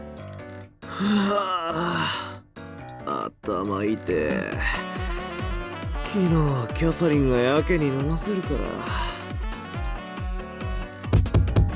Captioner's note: sigh